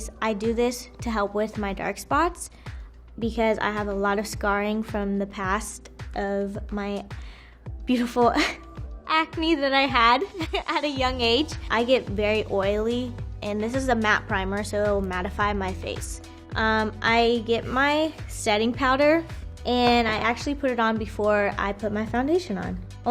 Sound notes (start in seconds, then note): 7.5 chuckles